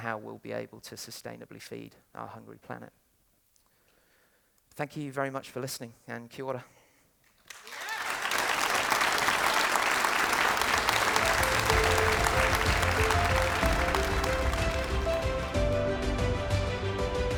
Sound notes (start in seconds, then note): 7.4 audience Clapping